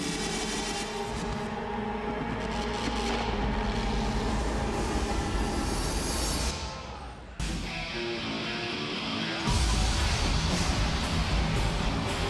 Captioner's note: crowd cheering